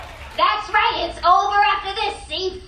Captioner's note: audience cheering